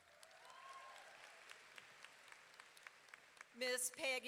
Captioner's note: audience clapping and cheering